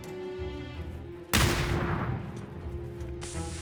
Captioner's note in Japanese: どかん